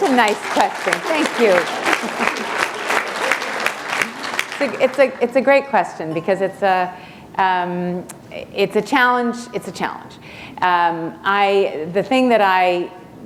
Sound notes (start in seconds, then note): 4.1 applause